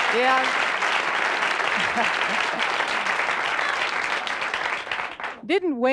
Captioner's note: applause